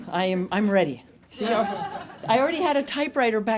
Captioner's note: audience laughs